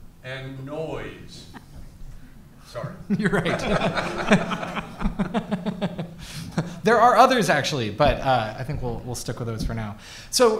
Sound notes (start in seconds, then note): 3.1 all laughs